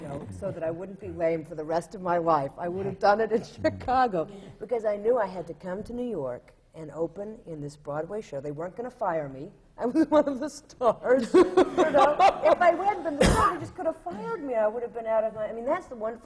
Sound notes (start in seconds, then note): 4.3 laughs; 9.6 laughs